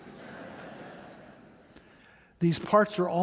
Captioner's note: audience laughing